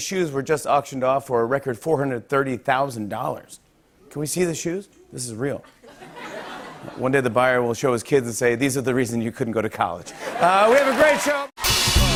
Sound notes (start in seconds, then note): 5.6 laughter; 10.1 laughter and applause